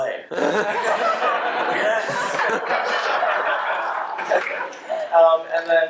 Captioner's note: laughter